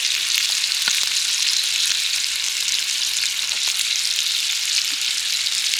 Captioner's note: ASMR cooking sounds